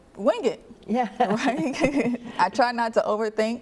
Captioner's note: laughing